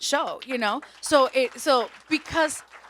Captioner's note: audience applauds